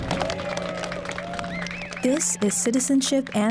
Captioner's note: applause